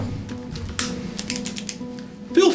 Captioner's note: clicks pen